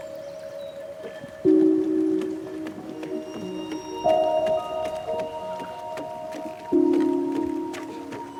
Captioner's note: slippers slapping